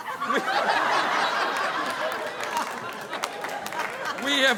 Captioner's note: audience laughing